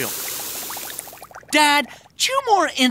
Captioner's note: cereal fizzing